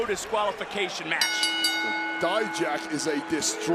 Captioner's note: bell rings